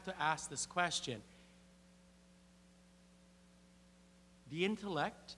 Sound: <i>Brief pause</i>

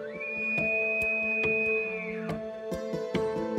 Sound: elk bugle

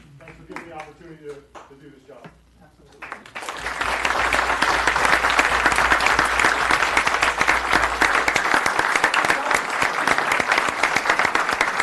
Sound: applause

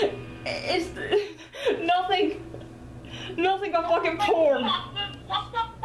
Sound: laughs

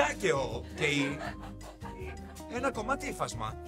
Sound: laughter

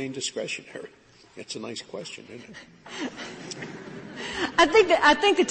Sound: laughter

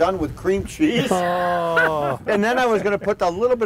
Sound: laughter

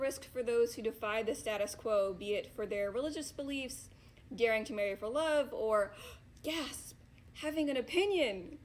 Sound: gasp

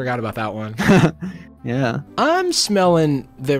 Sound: chuckles

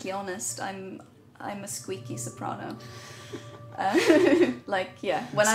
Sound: laughs

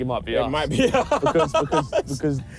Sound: laughing

